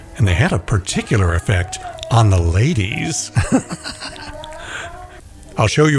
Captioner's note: laughing